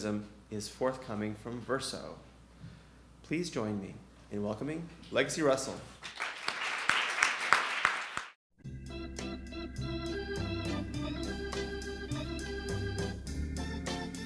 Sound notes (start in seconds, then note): 6.0 audience applauding; 8.6 upbeat music